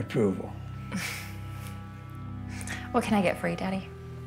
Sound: Grace chuckles

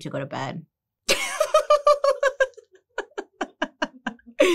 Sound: laughs

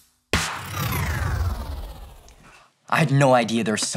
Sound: screen whooshes

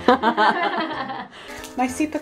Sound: laughs

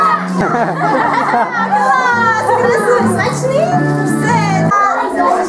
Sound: guests laughing

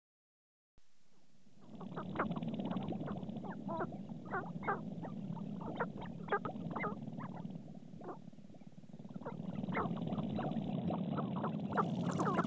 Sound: grouse sounds

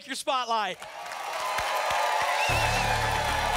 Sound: applause

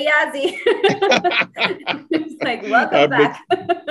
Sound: laughs

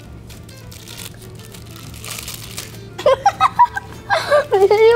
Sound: brother crunching; girl laughs

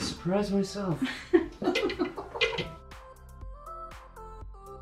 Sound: all laughing; lively music

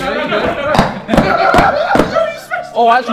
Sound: JJ laughing

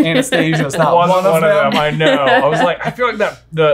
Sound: laughing

